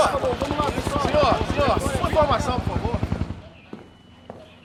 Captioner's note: helicopter buzzing